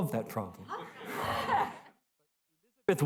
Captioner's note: laughter